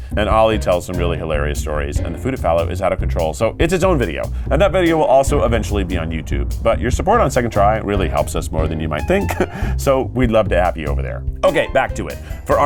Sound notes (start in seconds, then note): 4.5 graphics thudding; 9.1 laughs